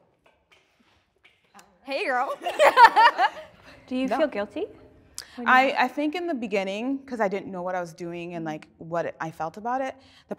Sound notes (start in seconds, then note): 2.4 laughter